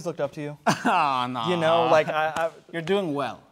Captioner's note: chuckles